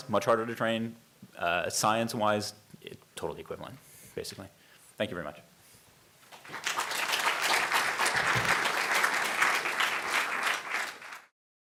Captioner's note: audience applause